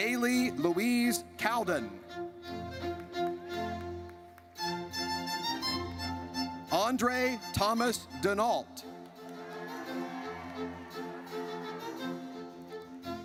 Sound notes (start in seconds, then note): 2.2 triumphant music; 9.1 audience cheers